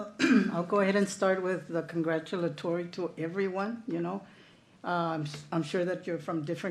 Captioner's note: clears throat